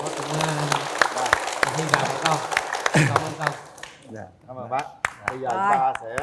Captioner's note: applause